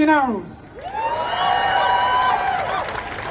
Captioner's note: applause